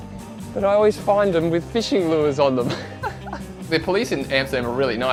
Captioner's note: laughs